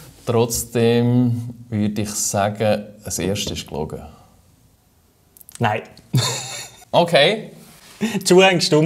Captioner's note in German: Lachen